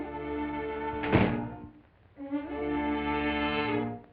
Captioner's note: door closes; suspenseful music